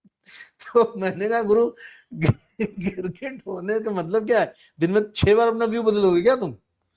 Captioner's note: laughs